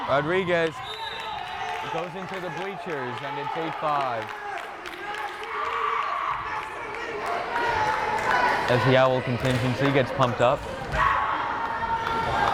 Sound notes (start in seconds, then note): 5.1 crowd cheering